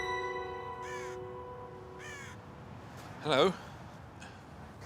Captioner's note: crow caws